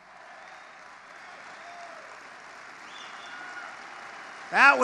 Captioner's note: applause